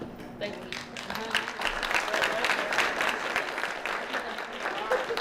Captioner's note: applause